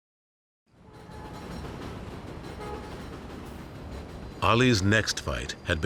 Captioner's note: train rattling